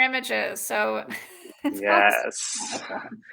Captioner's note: laughing